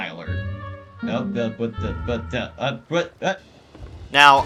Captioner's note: random confused noises